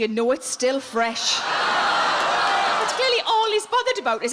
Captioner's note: audience groaning